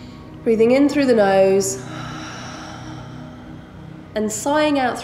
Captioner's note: heavy breathing